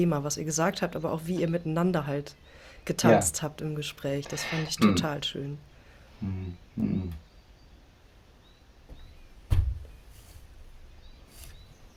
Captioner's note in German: räuspern